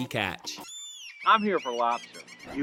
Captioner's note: birds squawking